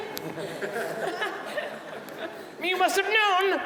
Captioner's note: audience laughing